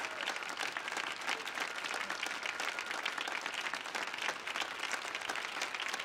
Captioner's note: audience clapping continues